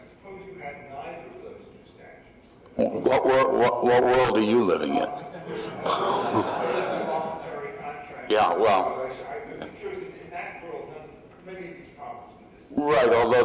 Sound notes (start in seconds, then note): 5.1 laughter